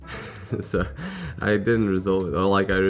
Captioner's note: chuckles